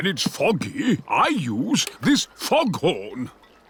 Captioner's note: none